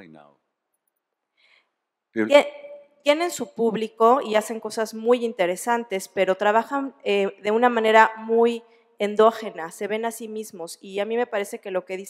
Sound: speaking spanish

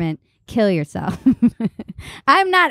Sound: laughs

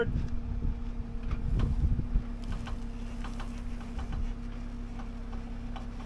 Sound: wind

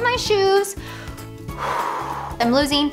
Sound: exhales

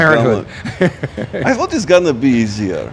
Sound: laughing

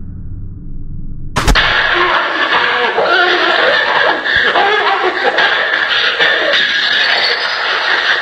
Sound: strange Grunting and fighting sounds

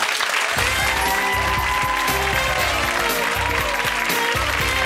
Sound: cheering and applause

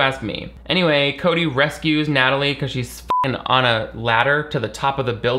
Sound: beep

